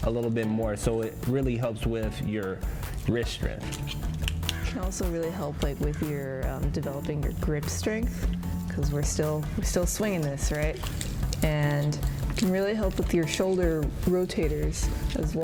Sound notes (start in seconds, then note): none